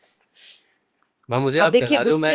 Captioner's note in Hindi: नाक से की जाने वाली आवाज़